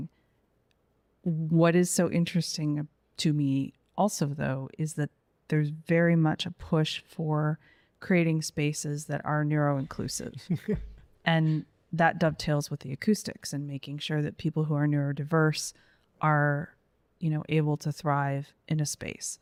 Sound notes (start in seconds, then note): 10.5 laughs